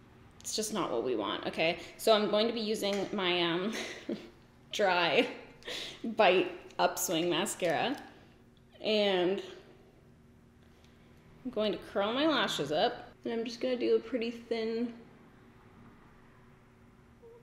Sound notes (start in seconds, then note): 3.7 giggles